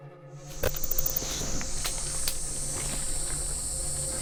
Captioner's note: cicadas chirping